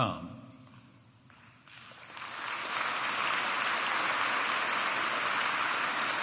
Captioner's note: applause